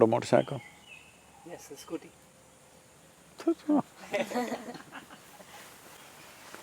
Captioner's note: laughs